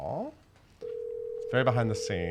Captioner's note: phone rings